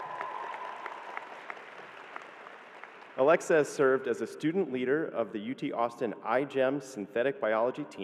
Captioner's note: cheering